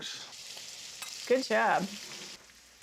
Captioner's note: sizzling sound